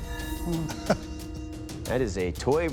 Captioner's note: laughs